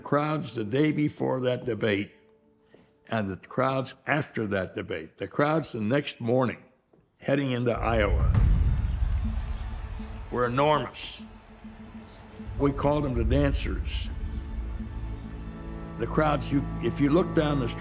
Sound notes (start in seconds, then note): 8.2 crowd cheering